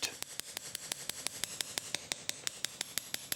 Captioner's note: fast, pointed hammering